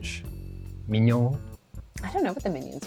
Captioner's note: speaking in a French accent